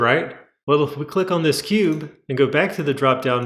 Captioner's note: click